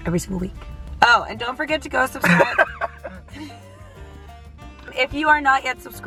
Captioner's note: laughing